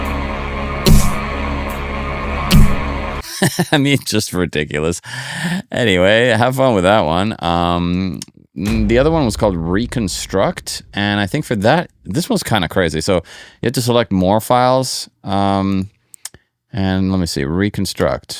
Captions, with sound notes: (upbeat music) (laughs) I mean, just ridiculous. Anyway, have fun with that one. The other one was called reconstruct and I think for that, this was kind of crazy. So you have to select more files and let me see, reconstruct.